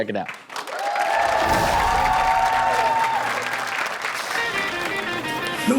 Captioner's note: audience cheering and clapping; guitar playing